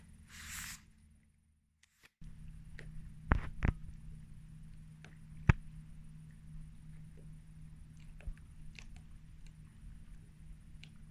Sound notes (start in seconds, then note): 2.3 boat engine noise in the background & waves